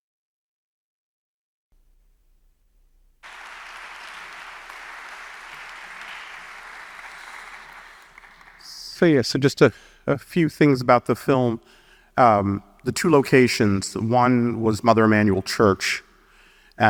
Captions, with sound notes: (audience applauding) So yeah, so just a few things about the film. The two locations. One was Mother Emmanuel Church